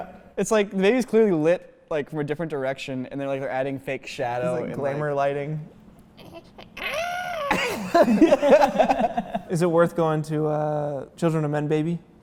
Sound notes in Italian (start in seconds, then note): 6.6 imita il bambino; 7.5 risate